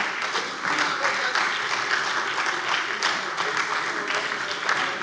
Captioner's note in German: Beifall bei der SPD